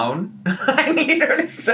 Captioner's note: giggles